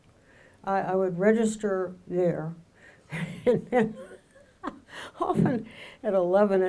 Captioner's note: laughs